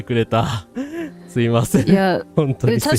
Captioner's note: laughter